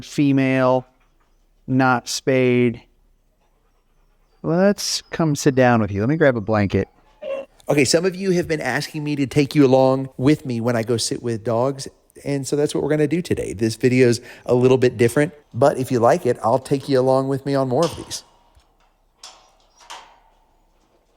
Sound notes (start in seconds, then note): 19.3 gate clanks